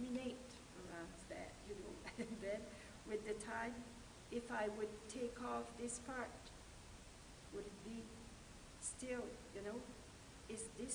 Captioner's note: laughter